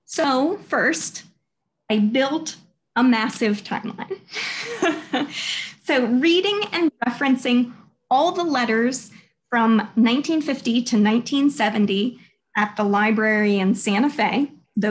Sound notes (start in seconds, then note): 4.4 laughing